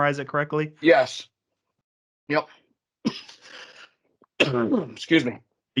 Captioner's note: coughs